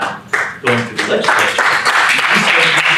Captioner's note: applause